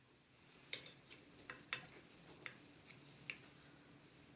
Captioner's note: none